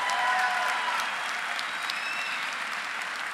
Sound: applause

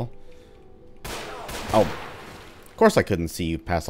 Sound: shot; bang

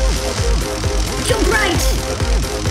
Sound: crackling electricity

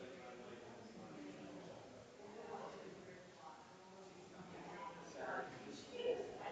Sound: people chattering distantly continues

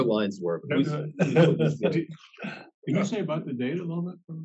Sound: laugh

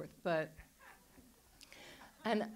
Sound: audience laughs

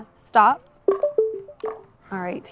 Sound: smart Glasses Chime

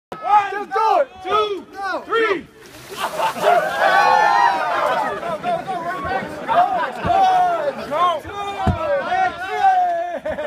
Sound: chatter and cheers

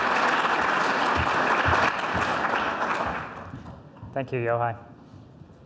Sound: audience applauds

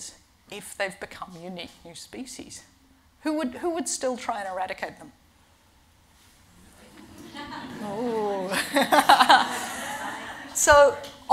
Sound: laughing

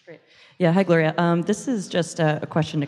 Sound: voiceover

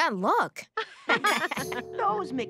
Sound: laughter

